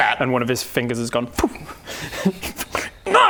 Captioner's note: poof!